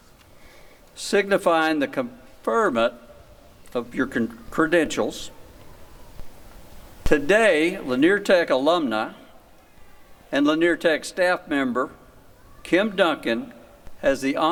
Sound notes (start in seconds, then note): none